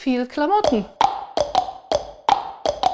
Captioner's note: clicking sounds